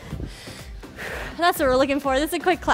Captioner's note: breathes heavily